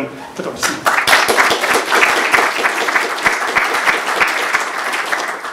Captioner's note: applause